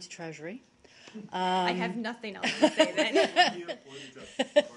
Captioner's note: laughter